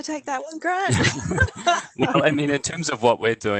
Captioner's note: laughter